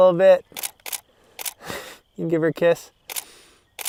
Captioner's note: click, click, click